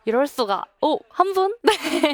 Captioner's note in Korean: 웃음